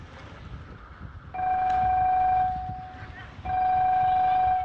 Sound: pay phone ringtone

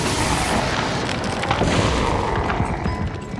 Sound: Appa growling

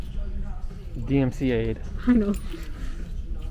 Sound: laughs

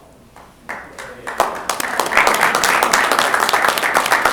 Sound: applause

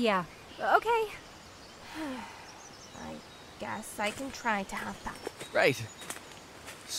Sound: sighs

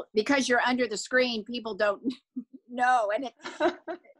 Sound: laughs

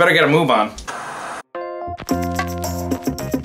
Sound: TV static; jazzy music

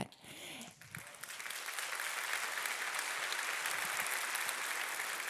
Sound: audience applauding

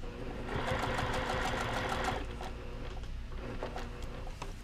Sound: machine whirring

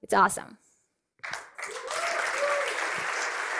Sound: cheering and applause

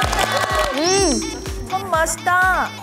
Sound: impressed

